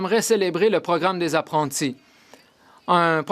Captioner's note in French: voix de l'interprète